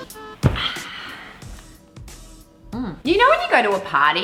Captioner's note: relaxed sighing